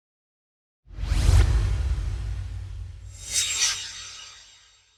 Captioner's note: swoosh